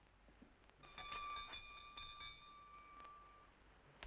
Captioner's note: bell rings